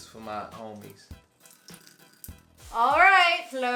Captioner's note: water dripping